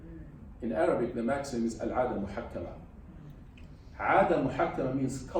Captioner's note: speaks arabic